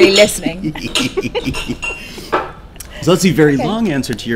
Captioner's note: laughing